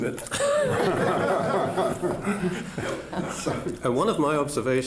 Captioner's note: laughter